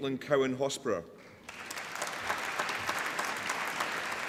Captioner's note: applause